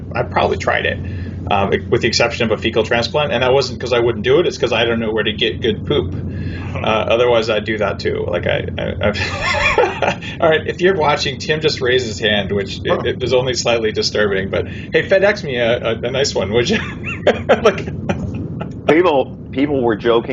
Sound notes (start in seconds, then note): 16.6 laughs